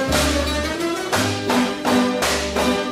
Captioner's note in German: Rhythmisches Klappern